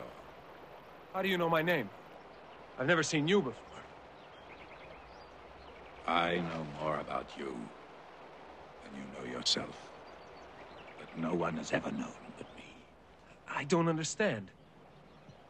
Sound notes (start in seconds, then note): none